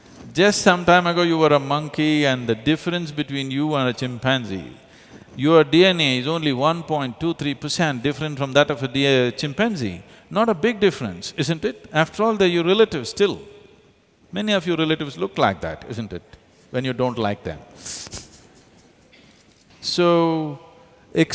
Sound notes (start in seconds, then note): 19.0 laughs